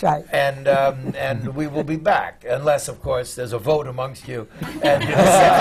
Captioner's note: laughter